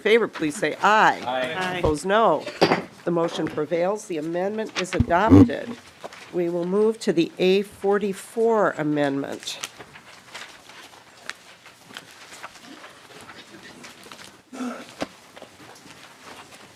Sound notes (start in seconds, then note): 8.5 chorus of ayes; 12.0 gavel